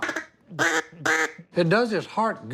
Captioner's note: duck calling